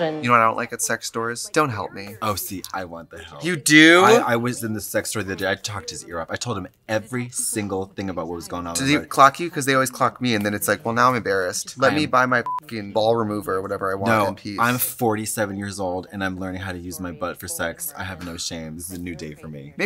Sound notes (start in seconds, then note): 12.4 beep